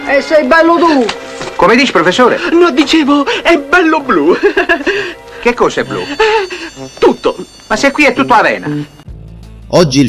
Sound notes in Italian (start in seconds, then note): 4.3 risate